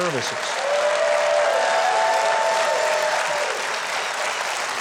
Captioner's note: crowd cheering